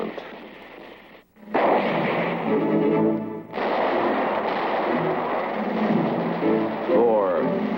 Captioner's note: shots